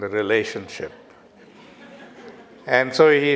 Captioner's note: audience laughter